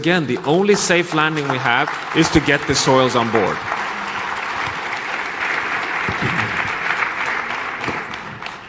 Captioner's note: applause